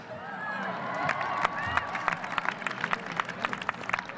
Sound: audience cheers

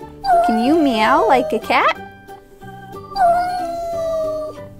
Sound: cat meows; cat meows

